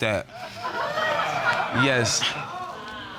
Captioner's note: audience laughing